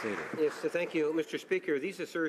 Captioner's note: some Applause